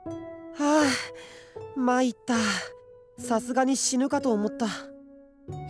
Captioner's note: sigh